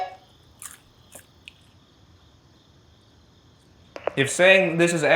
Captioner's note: popcorn crunching